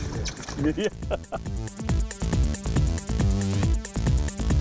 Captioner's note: chuckling